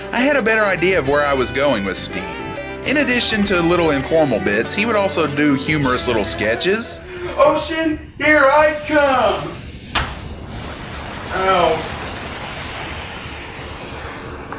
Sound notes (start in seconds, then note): 9.9 smack